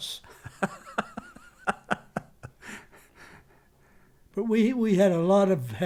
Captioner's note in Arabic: يضحك